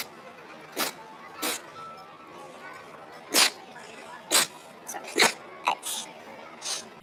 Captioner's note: repeated sneezing